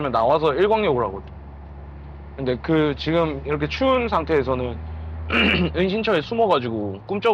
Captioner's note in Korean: 목을 가다듬음